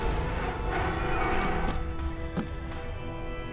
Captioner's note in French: craquements